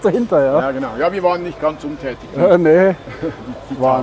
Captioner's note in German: lacht